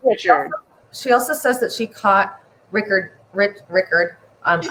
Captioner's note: stammers